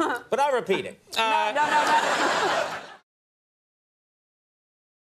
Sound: audience laughs

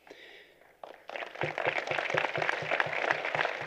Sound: applause

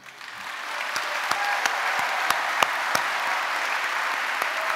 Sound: audience applauding

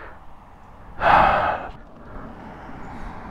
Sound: heavy sigh

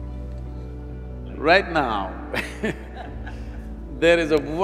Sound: laughs

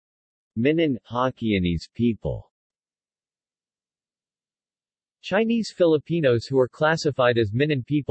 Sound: Hokkienese

